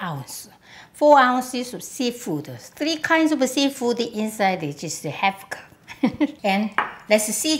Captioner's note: laughs